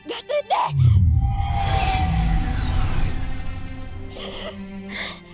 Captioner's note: speaking in enchanta; sparkling whoosh; sighs